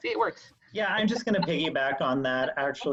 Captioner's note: all laughing